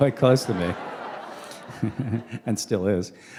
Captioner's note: laughter